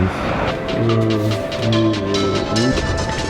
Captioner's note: making faces sounds